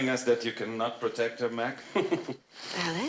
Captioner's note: Mac laughs